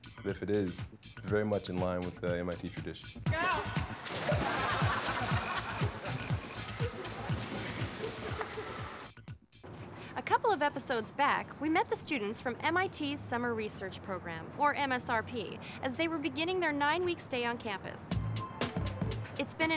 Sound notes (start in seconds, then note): 3.6 splash; 4.2 laughter